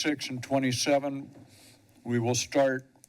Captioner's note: sniffles